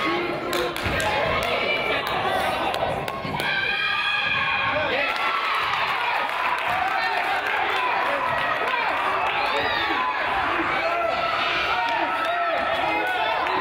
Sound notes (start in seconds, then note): 4.7 crowd applauds and yells; 12.9 claps